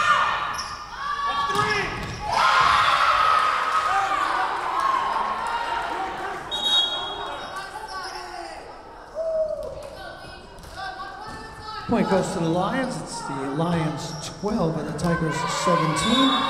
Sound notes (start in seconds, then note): 2.1 whistle blowing; 2.2 Lions cheering